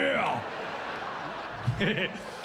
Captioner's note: chuckles